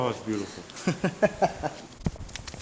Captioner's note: laughs